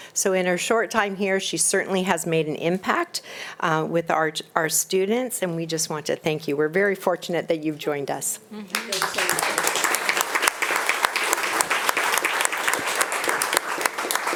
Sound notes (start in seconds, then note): 8.7 audience applauding